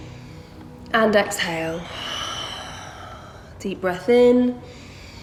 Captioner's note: heavy breathing